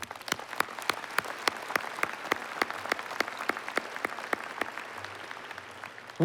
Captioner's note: applause